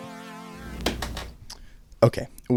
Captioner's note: small clunk